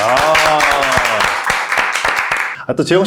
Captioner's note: applause